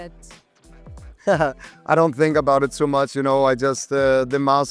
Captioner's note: chuckles